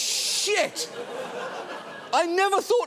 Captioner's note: studio audience laughing